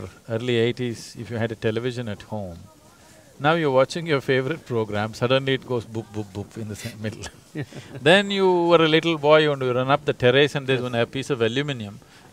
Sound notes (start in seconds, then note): 7.3 both laugh